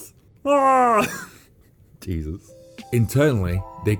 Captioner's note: laughs